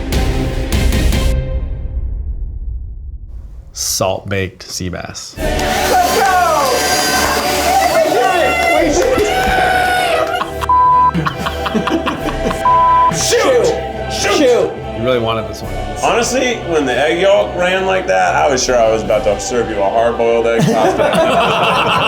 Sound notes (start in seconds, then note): 6.3 angelic music; 11.1 swearing